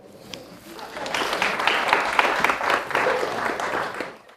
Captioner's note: audience applause